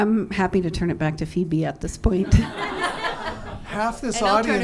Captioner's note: laughter